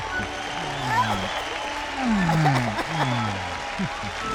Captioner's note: 观众欢呼